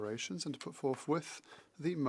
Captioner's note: speaking French